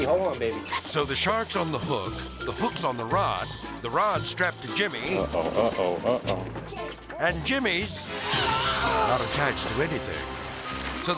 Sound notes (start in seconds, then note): 8.2 screaming